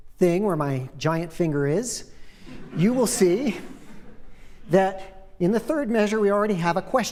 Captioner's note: laughter